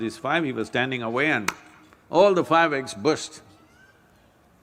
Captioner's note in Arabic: إيماءات - تصفيق